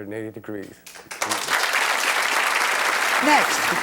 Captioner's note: audience applauds